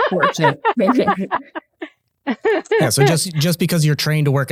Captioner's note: person laughing